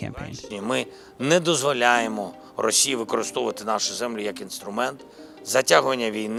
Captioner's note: Zelenskyy speaking Ukrainian